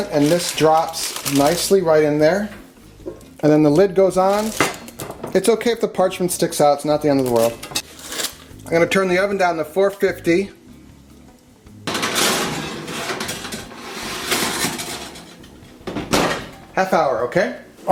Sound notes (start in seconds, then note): 11.8 pan clanking; 15.9 oven door closes